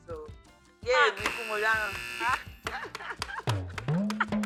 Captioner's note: laughs; buzzer pressed; laughs